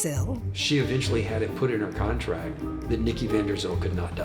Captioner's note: echoing